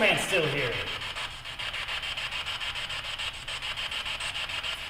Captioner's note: static buzzing